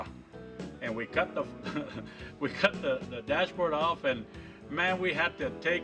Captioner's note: laughing